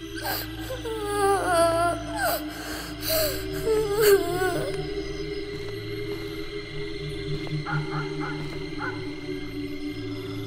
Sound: baby girl crying

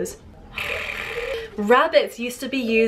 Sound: Em purring

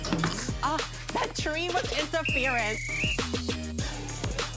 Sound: whistle blows

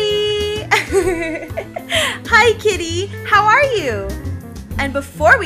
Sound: laughs

